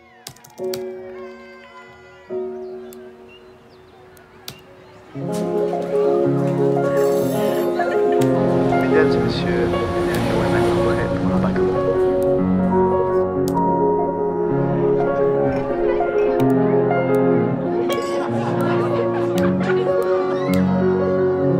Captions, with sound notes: [TYPING, AMBIENT CHEERS] [AMBIENT OUTDOOR SOUNDS] [AMBIENT SCHOOL SOUNDS, SCHOOL BELL RINGS] [AMBIENT AIRPORT SOUNDS] [VO IN FRENCH] "Ladies and gentlemen, it’s time for take off" [ELEVATOR CHIMES] [AMBIENT CROWD CHATTER, GLASSES CLINK] [AMBIENT CROWD CHATTER] [SOUNDS OF CHILDREN PLAYING]